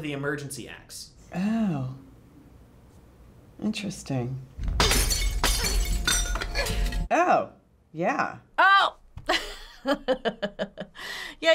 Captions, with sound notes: the emergency axe. - Oh. Interesting. (glass shatters) Oh, yeah. - Oh! (laughs)